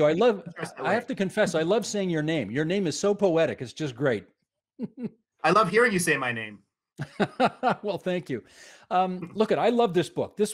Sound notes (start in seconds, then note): 1.2 speaking in italian